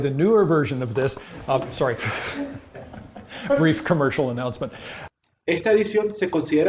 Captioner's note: chuckle